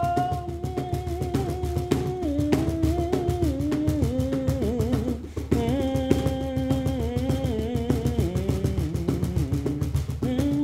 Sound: humming

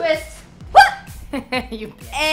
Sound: laughing

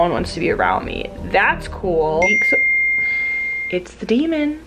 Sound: beeping

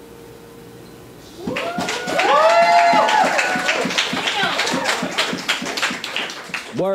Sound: audience cheers; audience applauds

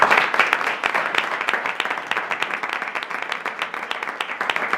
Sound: applause

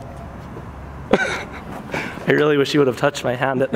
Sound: laughs

